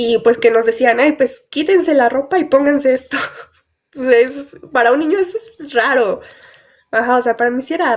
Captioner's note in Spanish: carraspeo